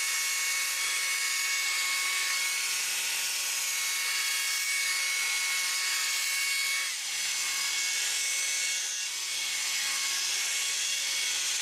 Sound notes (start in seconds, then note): 7.0 whirring saw noises